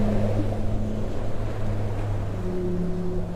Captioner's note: whales sing